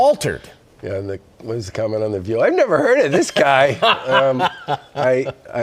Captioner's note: laughter